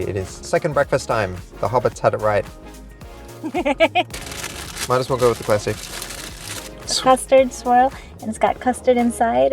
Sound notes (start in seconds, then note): 3.4 giggles